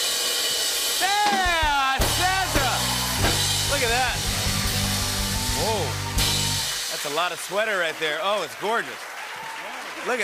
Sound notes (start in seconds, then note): 1.6 cheers and applause